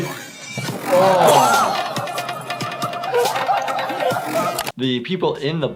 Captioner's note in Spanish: riendo y exclamando